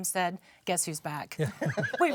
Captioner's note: panel laughs